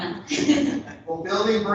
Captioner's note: laughs; laughter